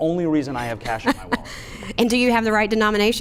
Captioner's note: laughs